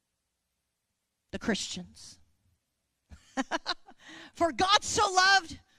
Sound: chuckling

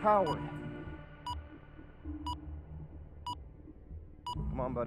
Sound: beeping as seconds count down

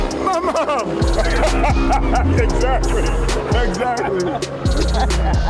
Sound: laughs

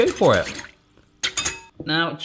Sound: whisk clangs on bowl

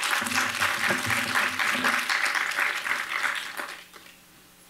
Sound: applause

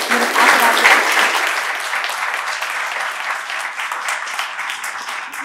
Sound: applause

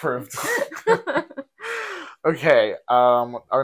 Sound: laughing

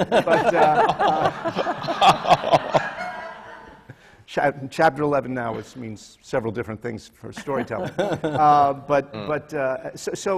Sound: laughter; laughter from the panel

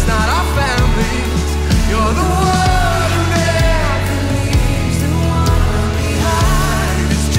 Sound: crowd

